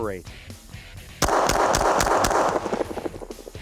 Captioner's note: gunshots